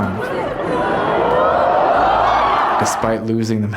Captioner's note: crowd cheering